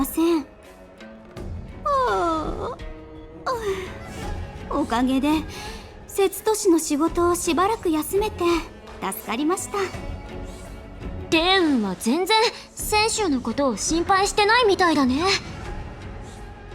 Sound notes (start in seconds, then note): 1.9 yawn